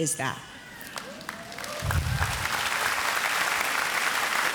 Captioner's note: audience applauds